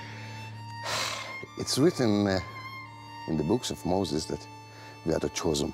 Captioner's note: sighs